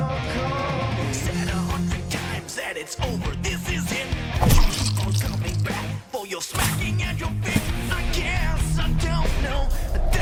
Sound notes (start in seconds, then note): 4.4 stabbing squelch; 6.2 crashing on leaves